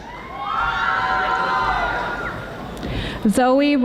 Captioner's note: audience applauding